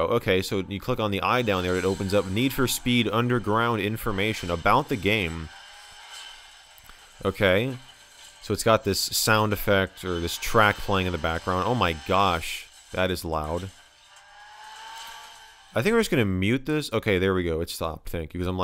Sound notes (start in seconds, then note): 13.9 engine revving sound